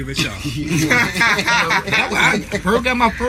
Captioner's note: all laughing